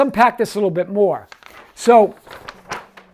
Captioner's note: paper rustling